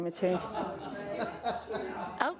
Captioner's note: indistinct chatter